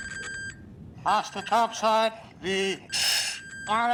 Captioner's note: speaking over radio